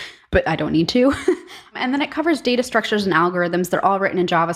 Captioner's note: laugh